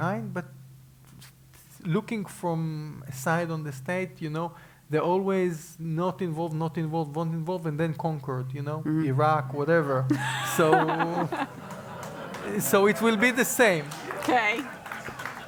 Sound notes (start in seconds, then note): 10.0 laugh; 14.1 applause